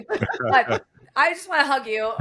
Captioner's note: laughing